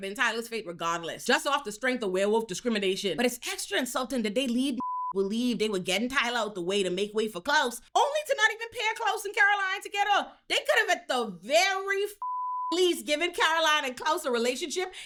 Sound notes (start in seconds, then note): 12.2 beep